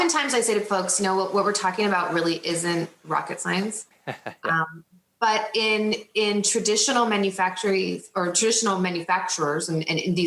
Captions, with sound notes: Oftentimes I say to folks, what we're talking about really isn't rocket science. (laughs) But in traditional manufacturers and in these industries,